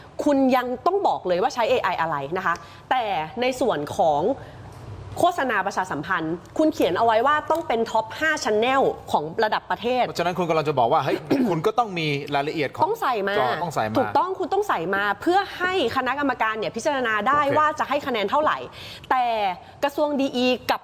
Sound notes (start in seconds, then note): 11.2 clears throat